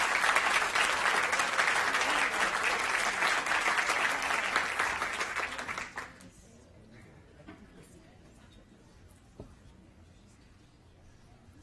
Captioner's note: applause